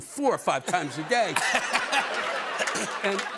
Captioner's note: laughter